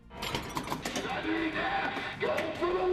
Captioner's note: machine chiming